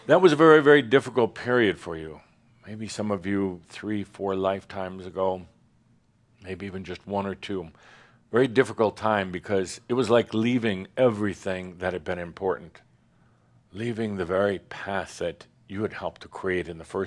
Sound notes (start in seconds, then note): none